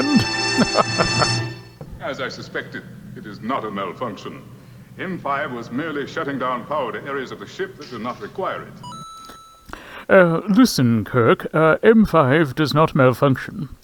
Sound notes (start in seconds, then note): 8.8 Mario coin jingle